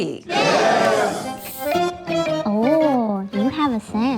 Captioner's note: crowd